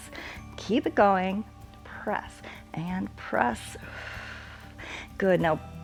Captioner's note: exhales